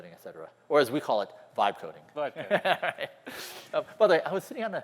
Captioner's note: laughter